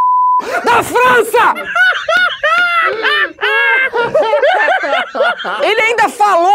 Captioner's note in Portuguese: risadas